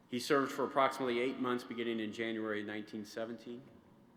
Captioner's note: none